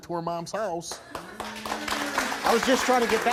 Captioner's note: applause